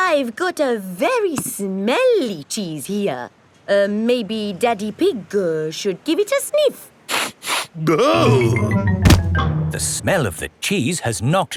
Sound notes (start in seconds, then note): 7.2 sniffs and groans